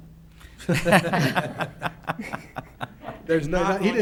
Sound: laughs

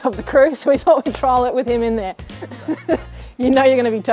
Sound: laughs

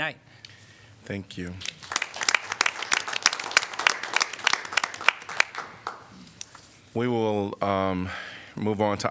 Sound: applause

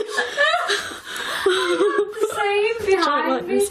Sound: laughing

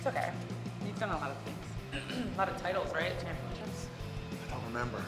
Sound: cough

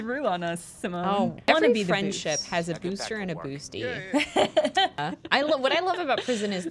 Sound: laughter

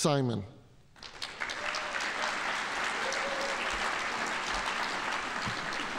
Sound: audience applauding

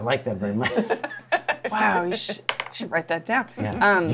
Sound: laughs

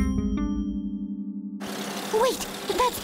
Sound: car motor

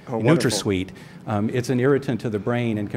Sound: voice in audience

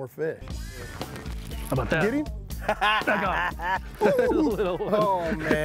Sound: both laughing

